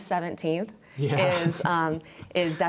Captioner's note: laughs